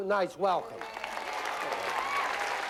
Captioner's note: applause